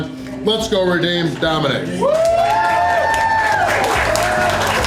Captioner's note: crowd cheering